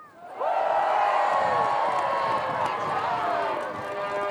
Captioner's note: crowd cheering